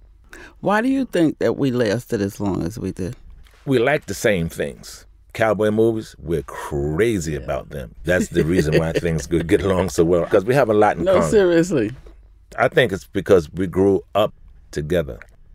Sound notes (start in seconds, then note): 8.0 laughs